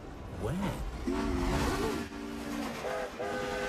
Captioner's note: whoosh; toot-Toot!